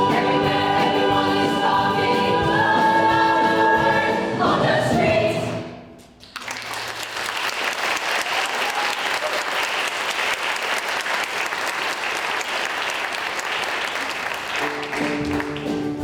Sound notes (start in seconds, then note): 6.2 applause